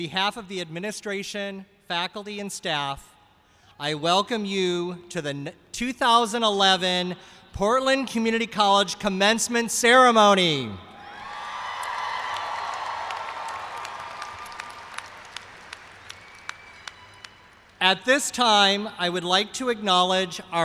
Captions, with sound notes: ON BEHALF OF THE ADMINISTRATION, FACULTY, AND STAFF, I WELCOME YOU TO THE 2011 PORTLAND COMMUNITY COLLEGE COMMENCEMENT CEREMONY. [CHEERS AND APPLAUSE] AT THIS TIME I WOULD LIKE TO ACKNOWLEDGE